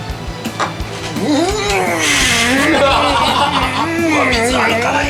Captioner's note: Egashira is groaning again